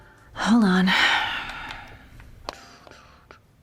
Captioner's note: sighs